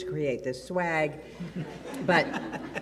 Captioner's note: audience laughs